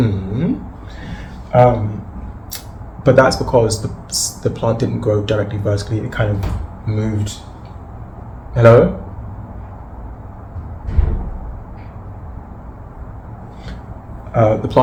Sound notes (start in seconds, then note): 7.9 sound of door opening; 12.2 sound of door closing